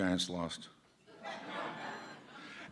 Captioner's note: laughter